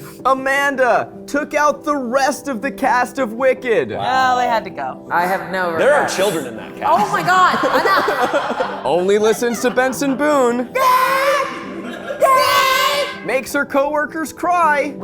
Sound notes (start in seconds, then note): 10.6 vocalizing